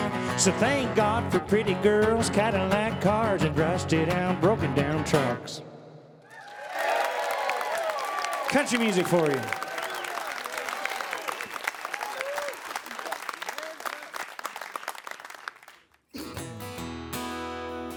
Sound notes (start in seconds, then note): 12.0 crowd applause; 16.2 soft guitar intro